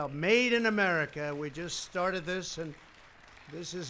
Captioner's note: applause